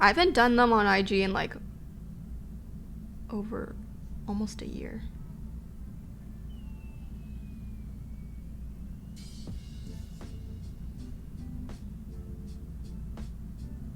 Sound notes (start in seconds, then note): none